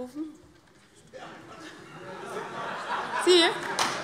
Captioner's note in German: Heiterkeit - Zuruf: Da hinten war es!